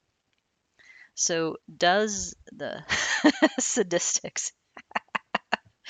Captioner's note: laughing